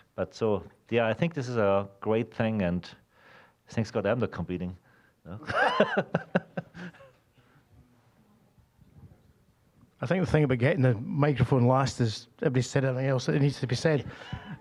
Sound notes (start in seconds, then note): 5.4 laughing; 14.3 scattered chuckling